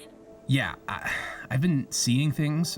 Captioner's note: sighs